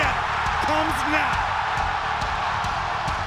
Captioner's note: crowd cheering; upbeat music